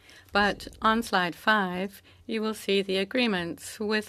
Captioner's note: speaking French